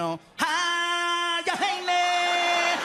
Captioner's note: mimics theme from The Lion King